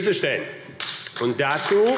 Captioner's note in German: Beifall AfD